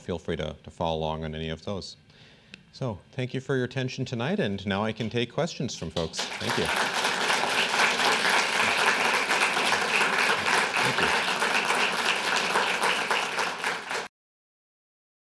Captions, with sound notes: to follow along on any of those. So, thank you for your attention tonight, and now I can take questions from folks. Thank you. [applause]